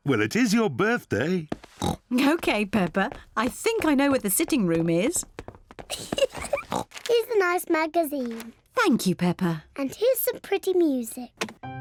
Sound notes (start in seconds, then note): 1.8 oinks; 5.9 giggles